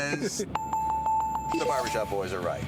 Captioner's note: bells